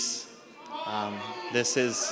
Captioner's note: yelling